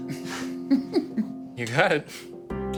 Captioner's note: giggles